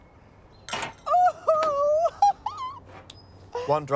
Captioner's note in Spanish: risas alegremente